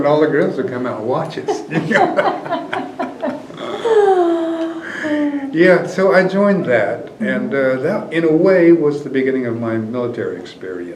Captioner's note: laughter